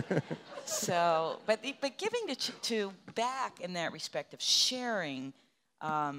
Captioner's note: laughing